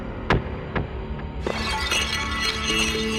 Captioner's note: glass shattering